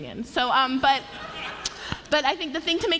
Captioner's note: laughter